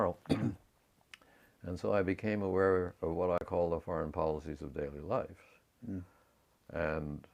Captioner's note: cough